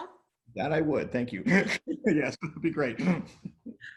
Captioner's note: laughs